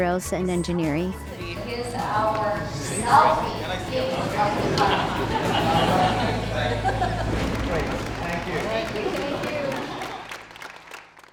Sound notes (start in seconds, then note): 5.2 chatter; 10.1 applause